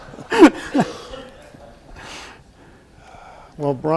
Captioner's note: everyone laughs